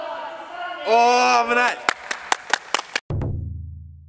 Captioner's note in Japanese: 拍手; 太鼓の音